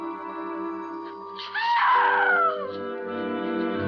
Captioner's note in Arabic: صرخات السيدة هالوران